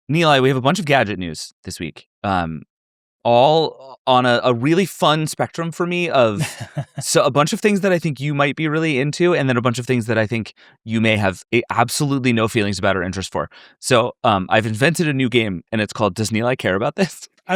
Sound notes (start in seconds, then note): 6.2 chuckles